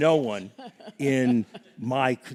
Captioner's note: laughs